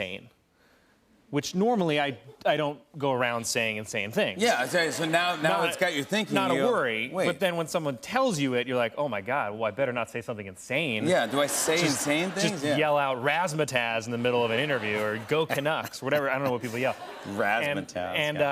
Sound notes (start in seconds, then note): 11.1 laughter